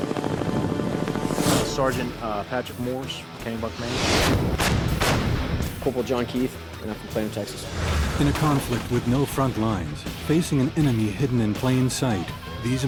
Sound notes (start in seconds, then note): 0.0 helicopter blades whirring; 4.3 outgoing artillery fire; 8.4 voiceover